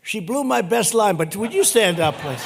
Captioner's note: laughter